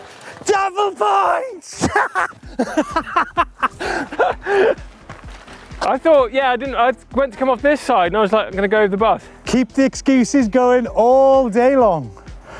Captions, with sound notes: - Yes double points! Double points! (laughs) - I thought, yeah I didn't, I meant to come off this side and I was like I'm going to go over the bars. - Keep your excuses going all day long.